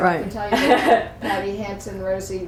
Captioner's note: laughter